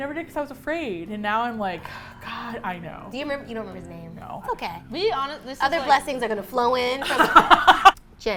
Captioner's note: sighs; laugh